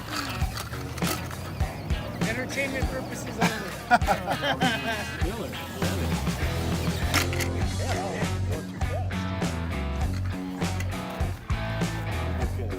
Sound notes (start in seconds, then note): 4.2 laugh